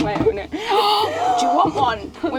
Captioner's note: gasp